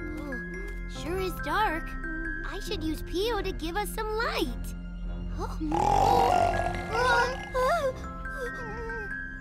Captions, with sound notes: Sure is dark. I should use Pio to give us some light. -[loud snoring] -[whimpers]